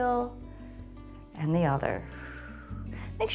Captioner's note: exhales